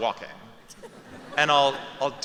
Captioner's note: laughter